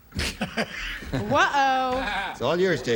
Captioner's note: laughter